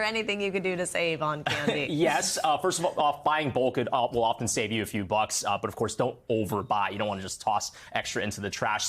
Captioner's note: laughter